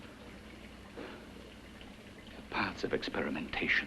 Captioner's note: liquids bubbling